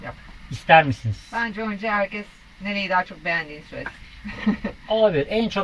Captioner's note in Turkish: kahkaha